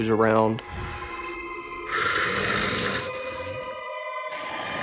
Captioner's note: snarling and growling